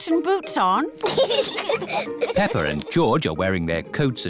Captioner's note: both giggle